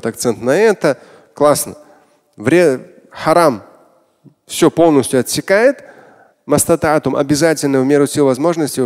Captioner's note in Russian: Говорит на арабском